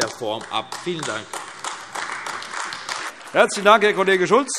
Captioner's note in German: Beifall AfD